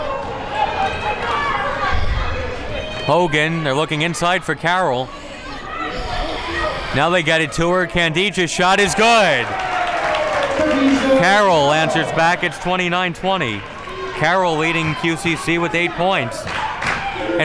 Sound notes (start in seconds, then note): 0.2 crowd talking and yelling; 10.0 crowd cheers